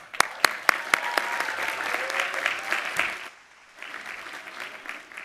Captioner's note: audience applauding and cheering